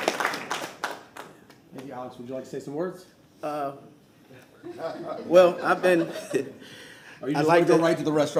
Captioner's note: applause